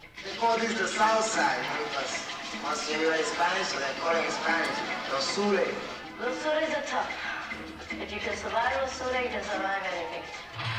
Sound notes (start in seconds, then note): 4.7 speaking spanish; 8.5 spanish